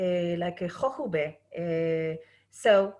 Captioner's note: speaking Hebrew